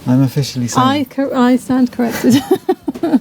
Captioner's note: laughs